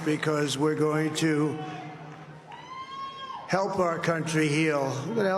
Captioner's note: applause